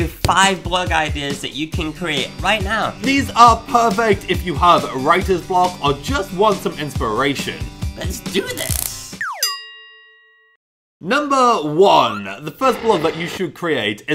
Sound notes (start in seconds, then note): 8.7 electrical buzzing; 9.3 bell pinging